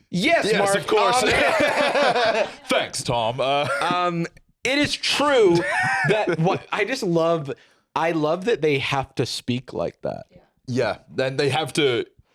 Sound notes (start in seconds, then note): 0.6 both laugh